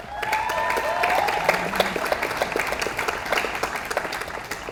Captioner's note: audience applauds